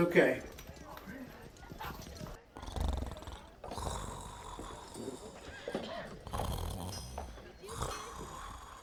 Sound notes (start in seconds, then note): 2.5 Murphy snoring; 3.2 people chattering